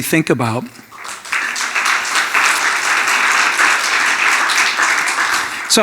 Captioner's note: audience applauding